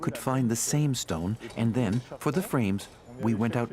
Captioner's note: speaking French